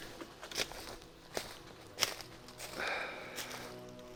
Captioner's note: leaves crunching